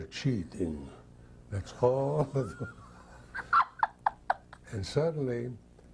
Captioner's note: woman laughs